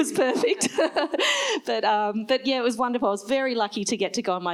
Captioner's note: laughs